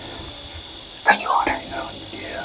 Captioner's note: whispering